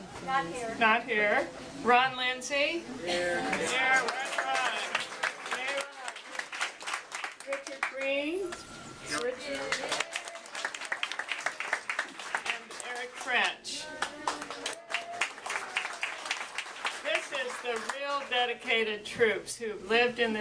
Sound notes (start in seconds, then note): 13.9 applause